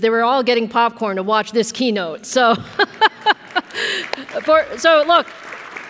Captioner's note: audience applauds